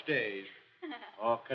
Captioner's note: laughs